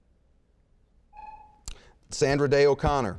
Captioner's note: buzzer beeping